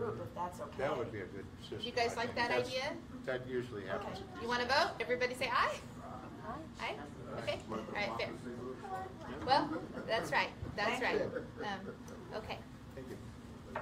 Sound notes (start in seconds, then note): 7.1 general agreement